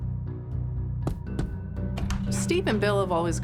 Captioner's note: fist knocking on door